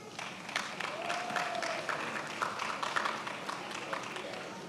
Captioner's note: attendees applauding